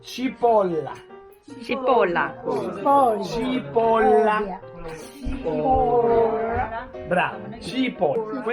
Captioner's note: Italian